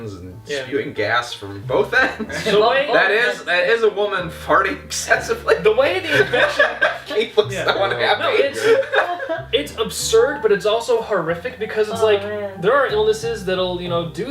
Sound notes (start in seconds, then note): 5.9 laughs